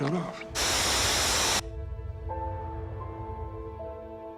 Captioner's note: hissing